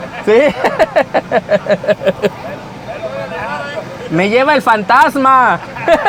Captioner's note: laughs; laughs